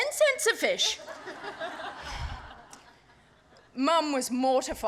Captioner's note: laughter